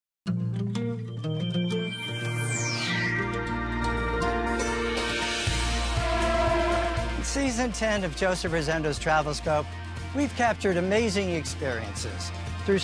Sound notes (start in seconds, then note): 0.6 uplifting music; 5.0 horns blow